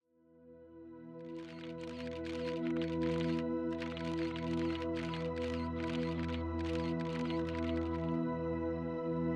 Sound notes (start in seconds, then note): 1.4 camera clicking